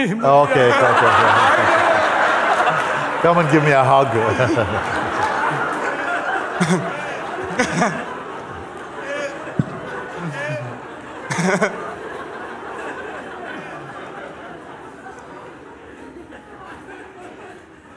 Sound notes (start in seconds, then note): 4.3 laughter